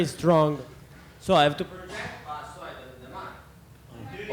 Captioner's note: man in audience speaks in a foreign language